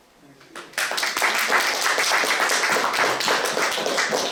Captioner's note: audience claps